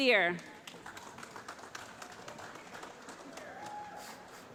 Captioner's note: applause